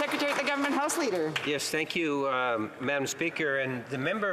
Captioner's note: some Applause